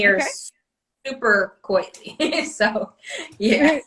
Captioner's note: laughs